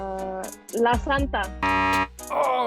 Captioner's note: beep